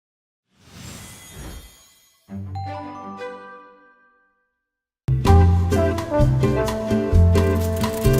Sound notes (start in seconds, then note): 0.3 digital beeping; 2.4 lively music; 5.1 upbeat music; 7.6 typewriter keys clicking